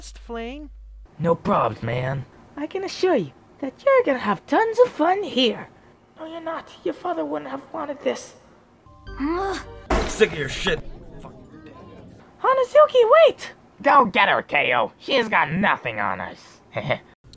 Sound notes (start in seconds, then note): 9.6 groans; 11.6 mutters; 16.8 laughs